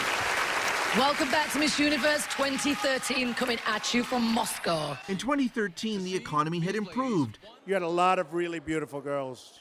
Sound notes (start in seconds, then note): 4.2 applause